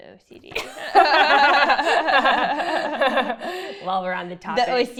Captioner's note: laughing